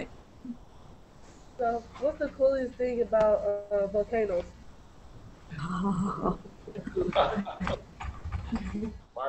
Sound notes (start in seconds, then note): 6.6 laughter